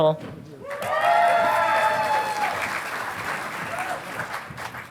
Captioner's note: audience applauding